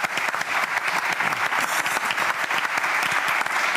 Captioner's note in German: Applaus